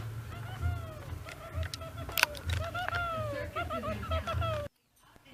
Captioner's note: giggles